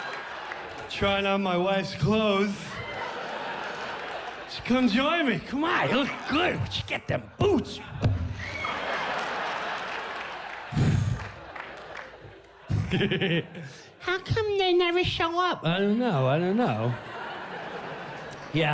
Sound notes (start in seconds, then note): 10.3 exhales; 12.4 laughs